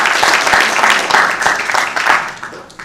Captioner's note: applause